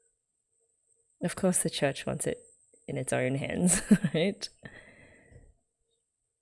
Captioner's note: laughs